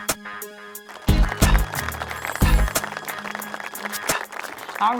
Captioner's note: funky upbeat music; applause